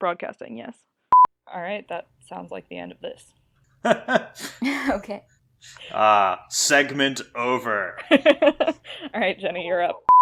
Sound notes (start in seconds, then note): 3.8 laughs; 7.6 laughs